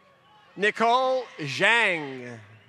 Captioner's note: applause